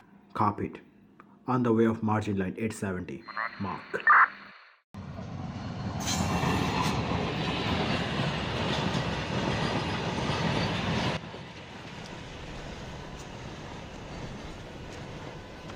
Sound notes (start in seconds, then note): 3.3 radio turns off